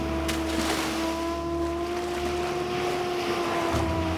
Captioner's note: water splashes